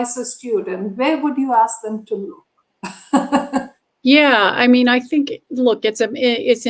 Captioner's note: laughter